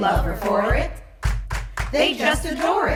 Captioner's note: clap clap clap